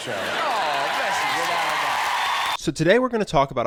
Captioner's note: audience applauding